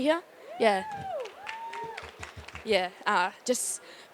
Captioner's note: applause